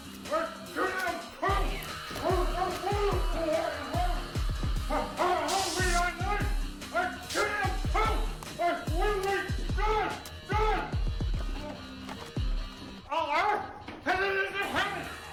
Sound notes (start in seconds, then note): 1.0 holy water splashing; 5.4 electric shock